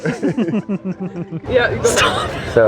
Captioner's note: both laughing